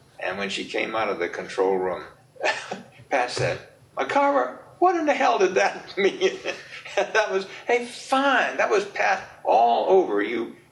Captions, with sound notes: And when she came out of the control room [chuckles] Pat said, "McArver, what in the hell did that mean?" [laughs] And that was a fine...that was Pat all over you.